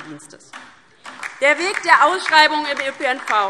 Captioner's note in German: Beifall DIE LINKE